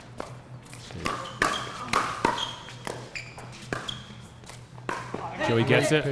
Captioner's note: shoes squeaking; ball being hit